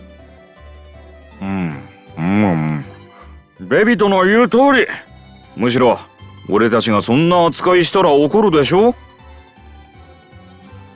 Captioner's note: eating